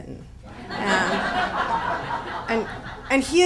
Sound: audience laughs

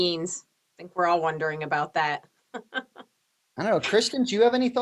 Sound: laughs

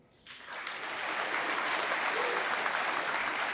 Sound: applause

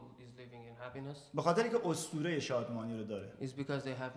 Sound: speaking in farsi

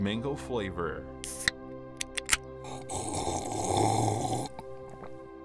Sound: drinking

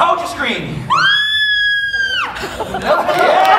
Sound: screams

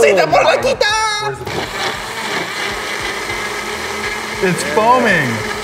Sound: Le blender blending

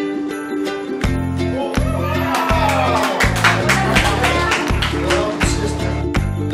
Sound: cheering

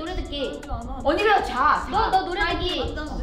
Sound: speaks in Korean

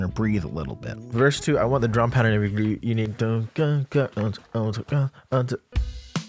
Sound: vocalizing drums

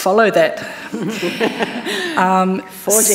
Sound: laughs

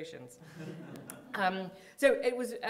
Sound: audience chuckling

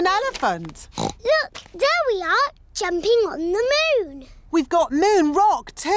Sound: oinks

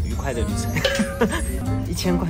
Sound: couldn't hold in the laugh

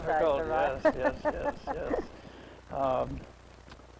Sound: still laughing

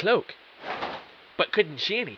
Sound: cloak rustling

